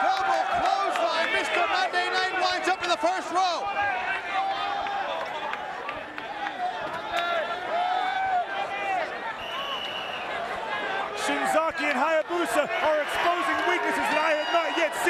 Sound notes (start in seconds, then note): 0.0 applause; 4.6 applause